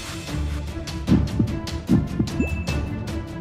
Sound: pounding heart

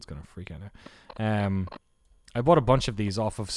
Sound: distortion

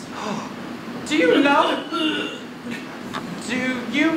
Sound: coughing

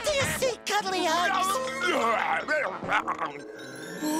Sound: groaning

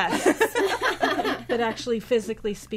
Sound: all laughing

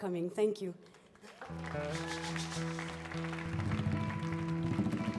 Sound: audience applauds

